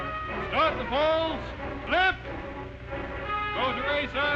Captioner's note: voiceover